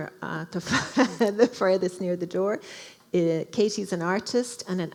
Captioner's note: laughing